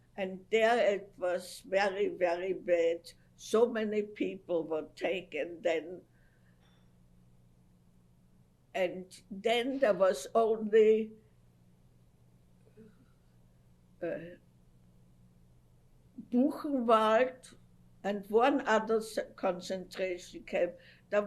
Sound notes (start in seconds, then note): 5.9 pauses for 3 seconds; 14.4 pauses for 6 seconds